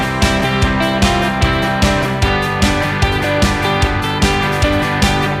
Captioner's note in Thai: ปรบมือ